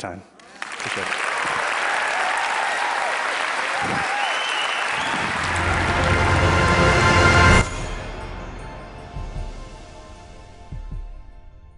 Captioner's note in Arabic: تصفيق